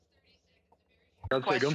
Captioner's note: speaking French